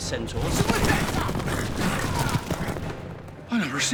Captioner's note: centaur yelling